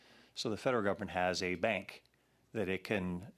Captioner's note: speaking French